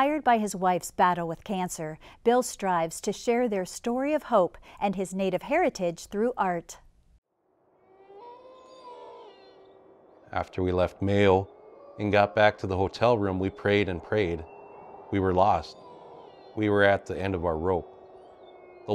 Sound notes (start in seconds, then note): 7.7 a wolf howls